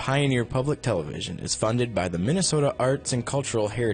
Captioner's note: voiceover